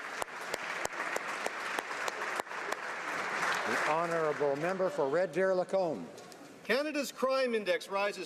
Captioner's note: applause